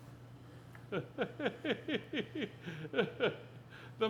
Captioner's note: laughing